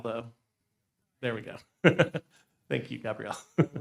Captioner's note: laughing